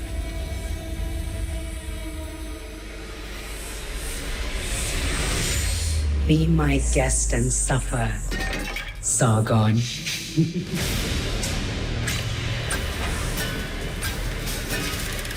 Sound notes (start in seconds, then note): 4.1 intense music; 8.3 metal clanging; 10.3 Queen Thomyris laughs; 11.3 intense music